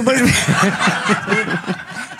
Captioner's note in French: rires